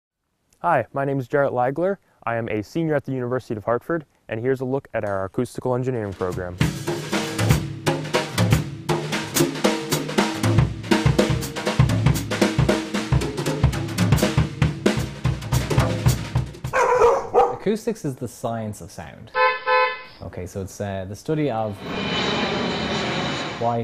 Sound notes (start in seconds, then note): 6.0 drum beat; 16.7 dog barking; 19.3 horn beeping; 21.6 plane taking off